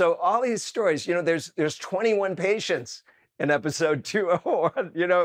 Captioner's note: chuckles